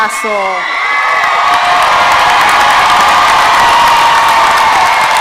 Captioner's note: audience cheering and applauding